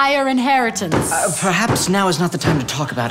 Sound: banging in background

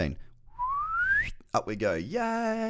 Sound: whistles

